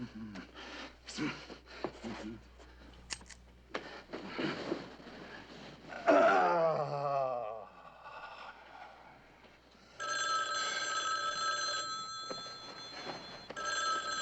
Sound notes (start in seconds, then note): 5.9 sighing; 9.9 phone ringing